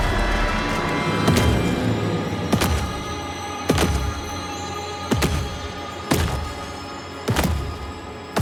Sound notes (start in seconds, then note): 2.5 footsteps approaching